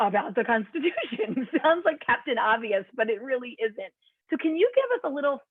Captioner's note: laughter